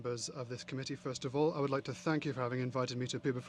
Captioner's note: speaking French